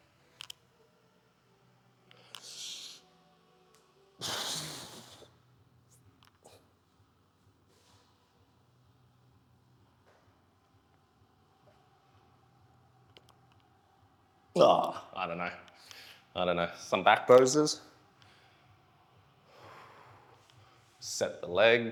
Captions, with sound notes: (exhales) (exhales) I don't know, I don't know, some back poses. Set the legs.